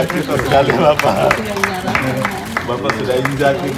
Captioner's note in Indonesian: tepuk tangan